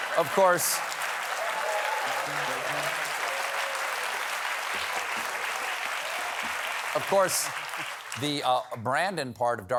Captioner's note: applause